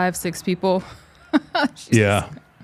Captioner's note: chuckling